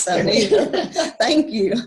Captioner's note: laughter